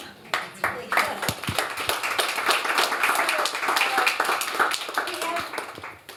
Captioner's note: applause